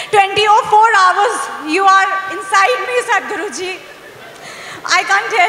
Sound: few laugh

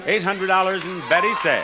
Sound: bell dings

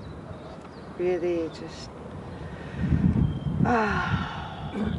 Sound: sighs

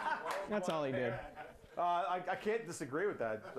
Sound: laughter

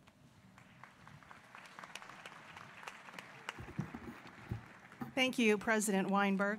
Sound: applause

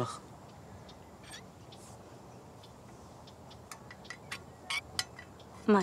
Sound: metal creaking

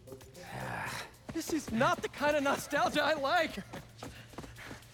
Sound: laughing

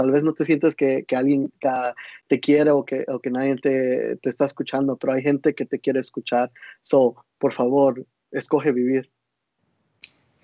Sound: speaking Spanish

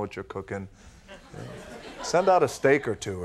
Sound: audience titters

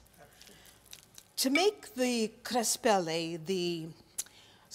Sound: speaking in Italian

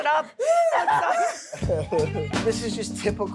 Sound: laughing

